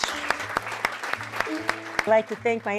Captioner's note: clapping